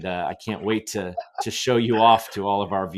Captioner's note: laughs